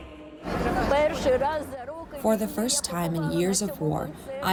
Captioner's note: through translator